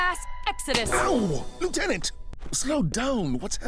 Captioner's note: snap!